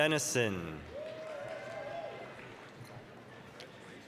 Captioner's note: applause, cheering